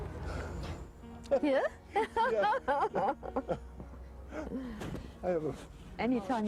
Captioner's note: laughs